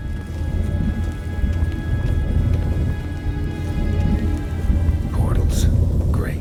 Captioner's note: deep rumbling